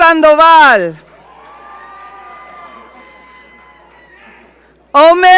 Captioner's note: audience cheering